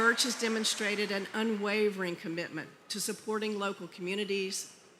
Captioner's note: cheering